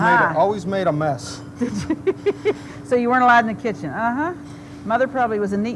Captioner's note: laughs